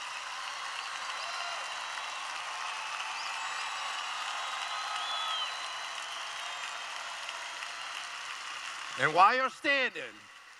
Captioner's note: cheering continues